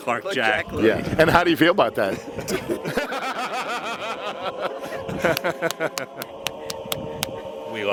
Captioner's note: laughter